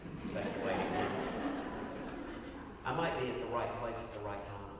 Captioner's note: laugh